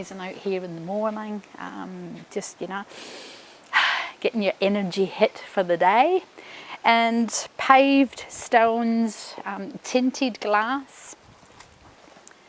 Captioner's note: breathes deeply